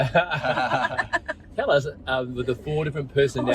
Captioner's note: laughing